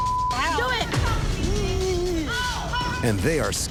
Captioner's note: mocking